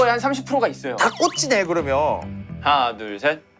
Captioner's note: in a voice full of confidence